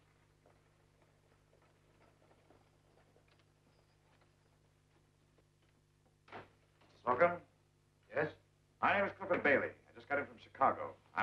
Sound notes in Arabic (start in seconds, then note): none